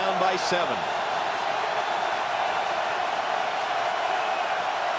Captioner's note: cheering